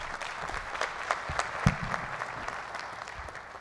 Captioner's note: applause